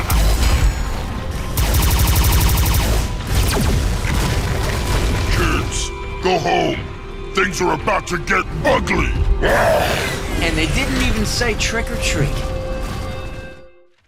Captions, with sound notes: [ELECTRONIC THUDDING] Kids, go home. Things are about to get ugly. [ROARS] And they didn't even say trick or treat.